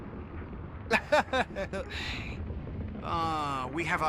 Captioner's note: laughs